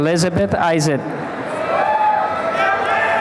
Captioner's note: applause and cheering